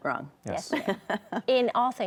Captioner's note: laughs